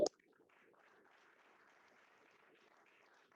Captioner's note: applause